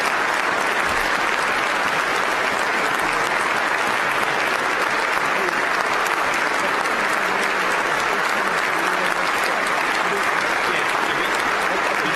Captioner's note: applause